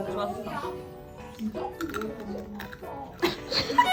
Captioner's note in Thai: กร๊อบๆ